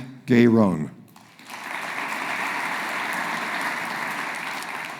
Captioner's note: audience applauding